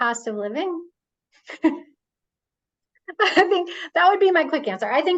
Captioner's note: laughs